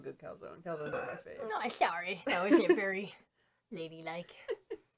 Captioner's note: burps